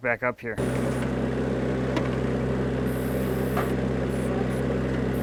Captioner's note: engine rumbles